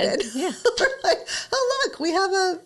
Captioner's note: laughs